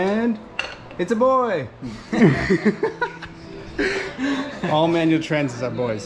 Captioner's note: haha